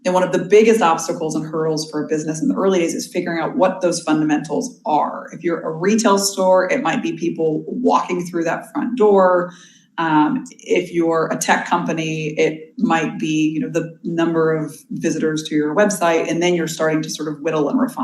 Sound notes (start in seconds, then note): none